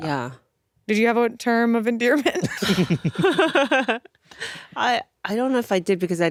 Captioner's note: laughs